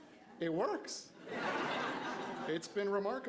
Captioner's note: crowd laughs